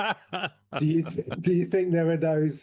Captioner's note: laughs